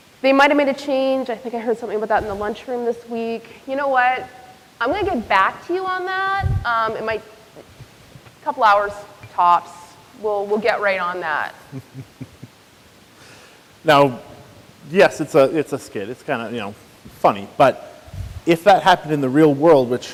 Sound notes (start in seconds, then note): 11.6 chuckles